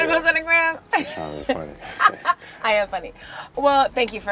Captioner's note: laughs